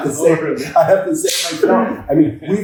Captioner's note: laughs; hand tapping